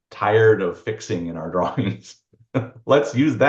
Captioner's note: laughs